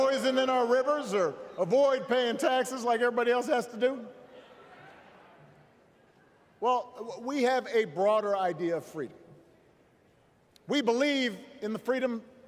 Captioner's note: crowd booing